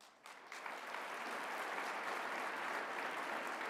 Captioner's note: applause